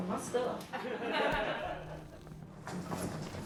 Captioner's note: laughing